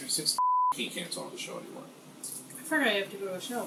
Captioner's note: beep